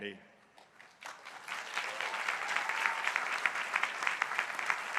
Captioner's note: crowd applauding